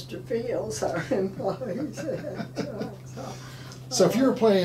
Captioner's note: laughing